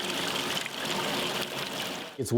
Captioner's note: water splashing